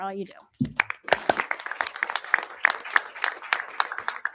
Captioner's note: crowd applauding